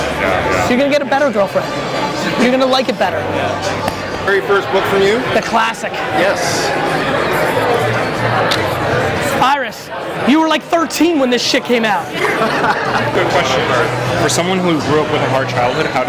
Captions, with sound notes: You're gonna get a better girlfriend. You're gonna like it better. - Very first book from you. - A classic! - Yes! - Iris, you were like 13 when this shit came out! (laughs) - Question, for someone who grew up with a hard childhood,